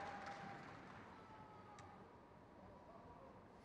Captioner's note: crowd cheers